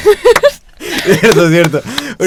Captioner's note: laughing